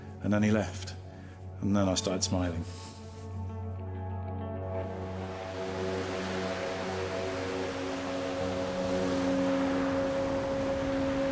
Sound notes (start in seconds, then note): 4.8 ocean waves crashing